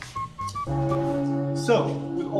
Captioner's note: bong of church bell